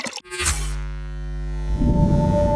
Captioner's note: water gurgles; electricity buzzing; celestial music